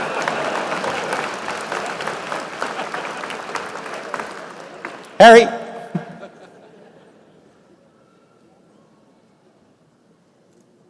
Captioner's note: applause